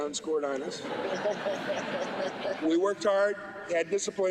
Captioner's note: laughter